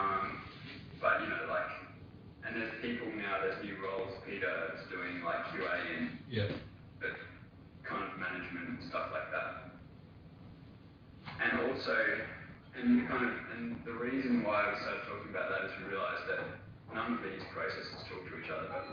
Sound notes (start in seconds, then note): 5.2 audio distorts